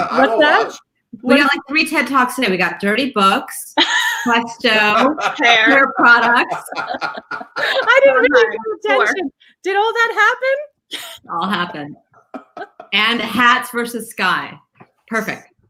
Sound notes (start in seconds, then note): 6.7 laughing